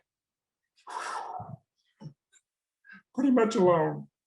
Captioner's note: breathes deeply